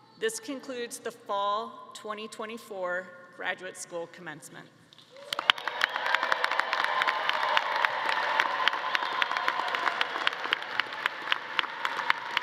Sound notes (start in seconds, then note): 5.0 all clapping; 5.2 audience cheering